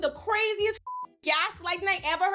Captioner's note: beep